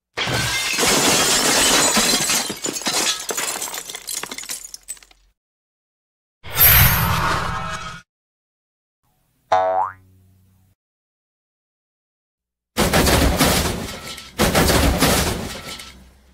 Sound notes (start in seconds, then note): 12.8 crash